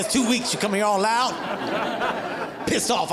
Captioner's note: audience laughing